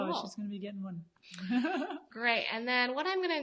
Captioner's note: laughs